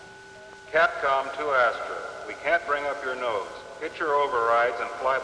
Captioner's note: man on PA